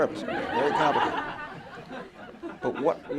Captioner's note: laughter